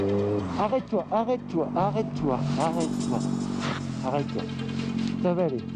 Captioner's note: speaks in foreign language